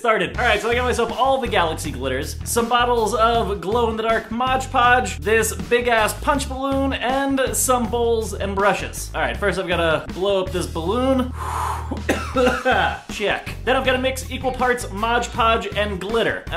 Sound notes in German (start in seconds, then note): 11.2 tiefes einatmen; 11.8 husten